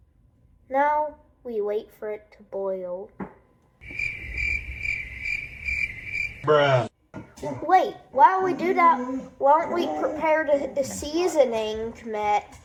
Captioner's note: crickets